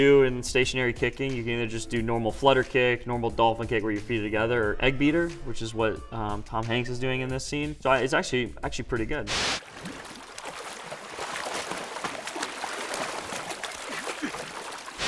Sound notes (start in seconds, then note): 9.3 splashing